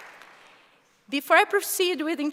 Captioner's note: applause